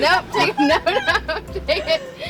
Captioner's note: laughing